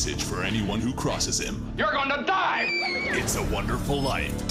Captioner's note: screams